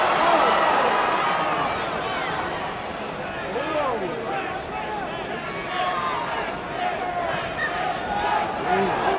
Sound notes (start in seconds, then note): 2.4 crowd Cheering